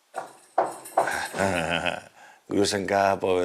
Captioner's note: knocks